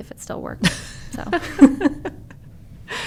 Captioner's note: laughter